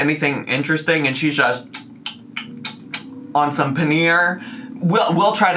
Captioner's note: smacks lips